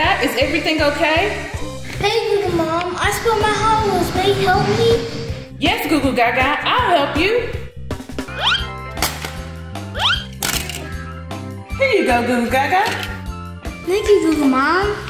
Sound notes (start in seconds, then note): 8.0 toy clatters; 8.0 toy whistling; 10.3 toy clatters